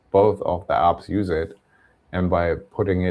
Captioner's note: none